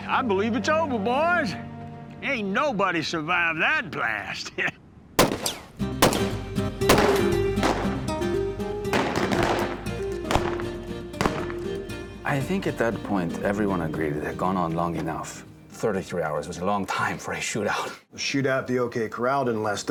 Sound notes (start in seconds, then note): 5.2 gunshots